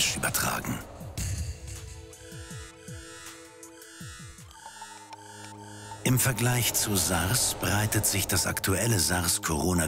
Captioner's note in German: Soundeffekte